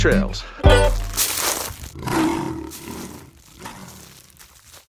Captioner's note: gravel crunching; mountain lion growling